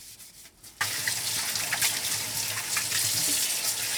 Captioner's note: water running